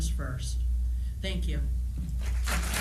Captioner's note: applause